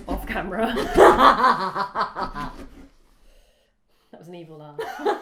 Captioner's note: laughs